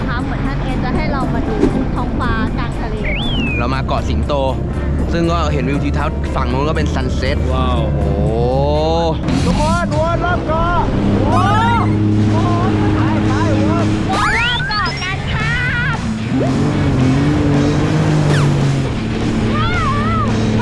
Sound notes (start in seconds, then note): 16.2 engine rumbling; 19.5 screams